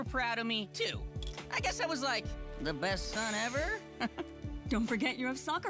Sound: chuckles

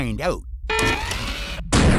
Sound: beep

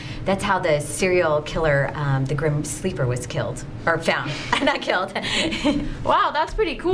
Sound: laughter

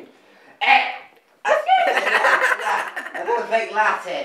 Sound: laughs

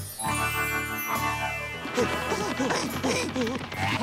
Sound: gasping

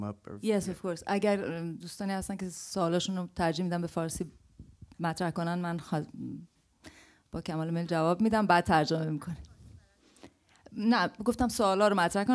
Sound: farsi, in Persian

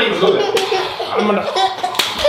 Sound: girl laughs

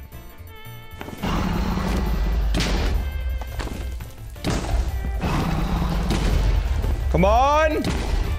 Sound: beds exploding; dragon roaring

